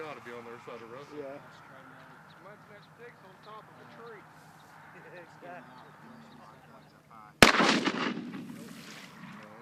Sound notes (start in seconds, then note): 7.4 gunshot